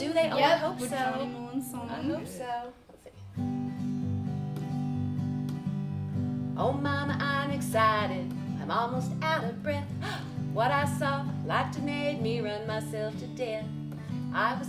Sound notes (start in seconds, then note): 3.7 gentle music; 9.9 gasps